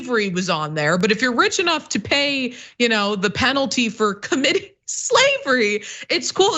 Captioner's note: laugh